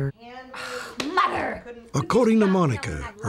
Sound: exasperated noise

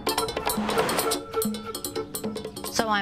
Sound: air whooshing

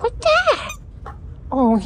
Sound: squeak

